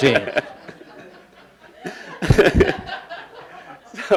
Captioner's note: laughing